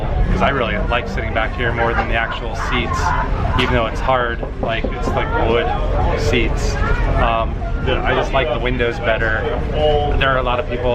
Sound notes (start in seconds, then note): 3.6 knocks